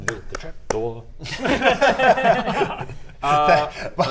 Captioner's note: easily fixated giggles